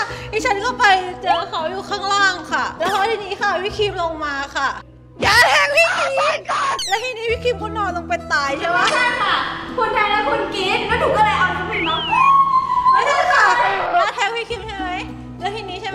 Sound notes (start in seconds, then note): 11.7 immitate whistle sound